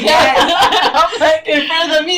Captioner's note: laughs